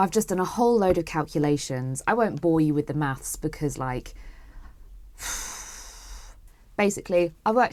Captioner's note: deeeeeep sigh